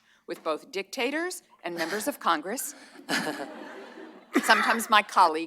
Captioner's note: laughter